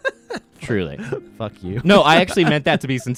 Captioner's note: laughing; laughs